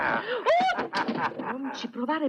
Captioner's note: chuckling; screams